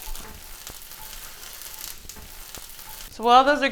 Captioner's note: food sizzling